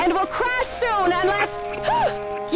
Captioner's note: gasps